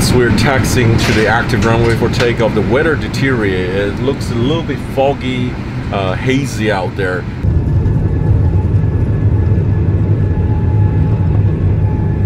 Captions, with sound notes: - We are taxiing to the active runway for takeoff. The weather deteriorated. It looks a little bit foggy, hazy out there. (plane whirs)